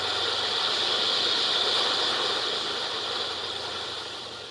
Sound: waves crashing

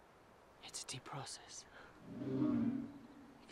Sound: whispering

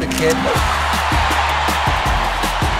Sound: crowd cheering

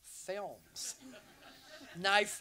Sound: audience laughs

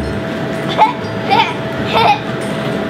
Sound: laughs

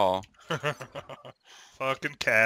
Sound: laughs

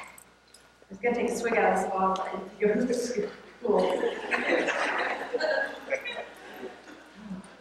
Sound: laughter

